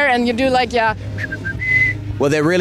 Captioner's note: whistles